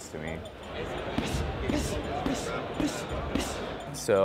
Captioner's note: grunting